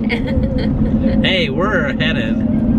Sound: giggling

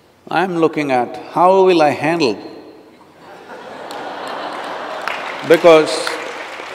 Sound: laughter/Applause

